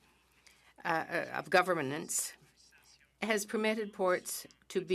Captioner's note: speaking French